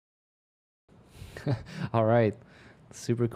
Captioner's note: chuckles